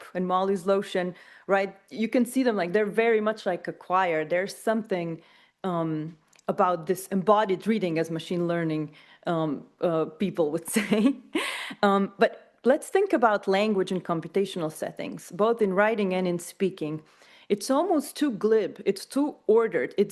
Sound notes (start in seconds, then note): 10.7 chuckles